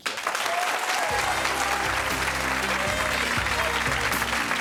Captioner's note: audience applauds; saxophone music